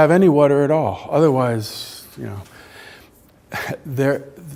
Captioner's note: chuckles